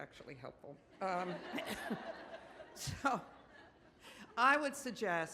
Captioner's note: audience laughs